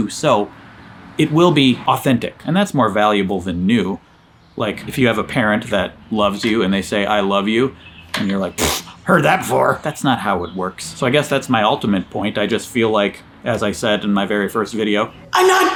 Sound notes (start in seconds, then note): 8.5 scoffing